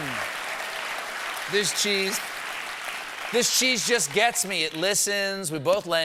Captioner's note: applause